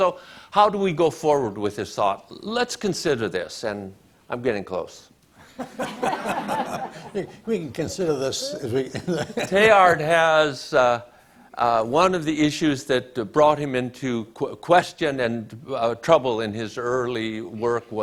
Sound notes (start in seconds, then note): 5.5 audience laughs; 9.2 laughs